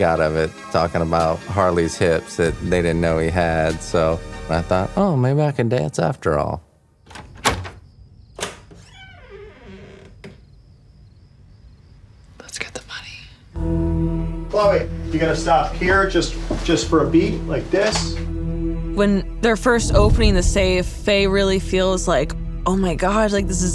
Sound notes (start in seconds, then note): 7.0 door opens; 8.3 door creeks; 12.3 whispers